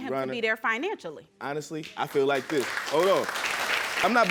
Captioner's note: audience applauding